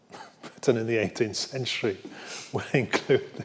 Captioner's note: laughs